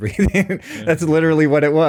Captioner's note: laughs